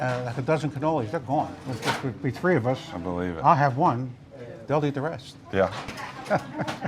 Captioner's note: laughs